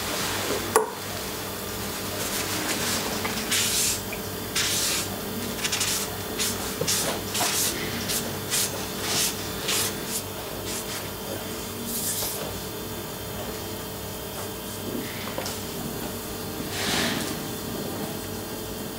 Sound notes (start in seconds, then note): 3.2 scratching wiping; 10.8 machine whirring in the background